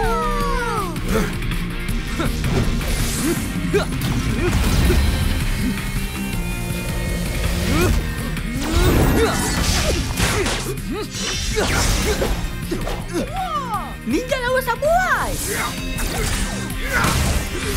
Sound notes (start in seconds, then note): 7.4 aggressive shout; 10.2 fighting grunts